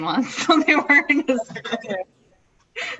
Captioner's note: laughs